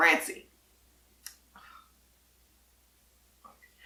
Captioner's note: sighs